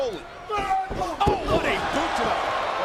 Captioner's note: Undertaker grunts